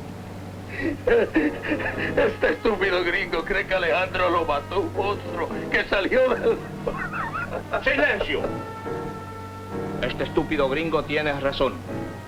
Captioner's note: speaking spanish